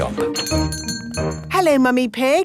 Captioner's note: doorbell chiming